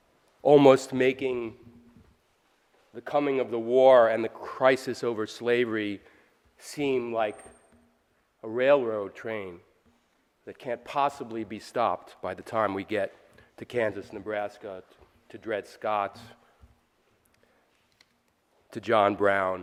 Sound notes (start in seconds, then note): none